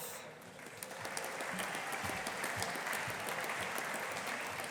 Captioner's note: audience applauding